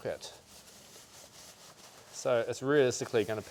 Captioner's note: fabric swishing